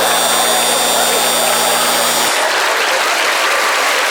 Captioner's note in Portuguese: campainha